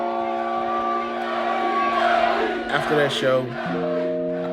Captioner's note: crowd cheering and chanting